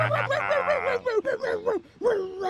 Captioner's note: barking slows